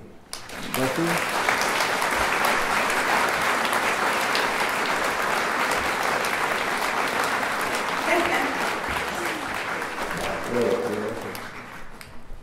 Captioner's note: applause